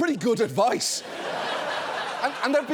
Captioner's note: audience laughing